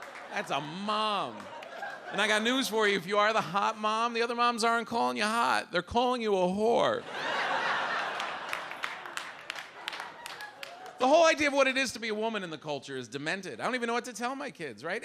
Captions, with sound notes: That's a mom. And I got news for you, if you are the hot mom, the other moms aren't calling you hot. They're calling you a whore. (audience laughs) (audience applauds) The whole idea of what it is to be a woman in the culture is demented. I don't even know what to tell my kids.